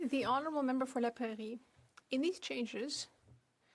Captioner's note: speaking French